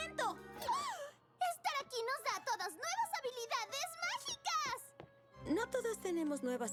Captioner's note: gasp